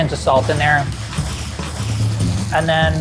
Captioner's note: food sizzling